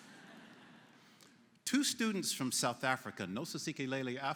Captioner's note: laughter�